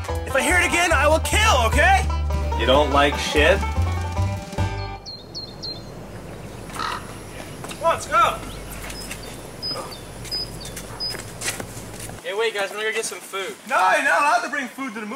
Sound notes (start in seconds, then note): 3.7 playful country music; 4.4 birds chirping